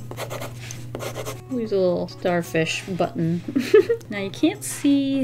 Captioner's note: giggles